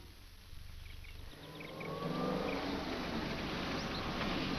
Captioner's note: bird chirps